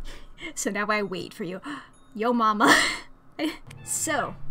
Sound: gasps

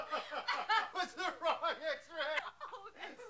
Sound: laughing

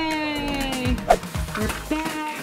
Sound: whoosh

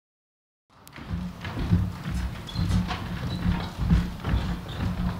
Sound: footsteps

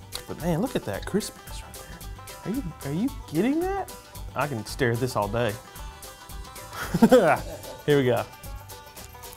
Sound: laughs

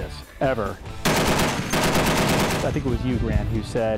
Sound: gunshots

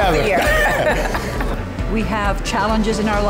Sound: laughing

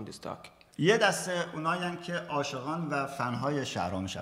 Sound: speaking in farsi

